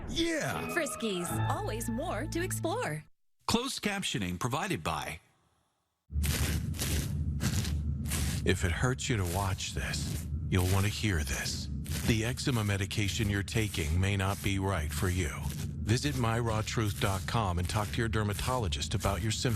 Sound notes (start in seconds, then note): 6.2 scratching sounds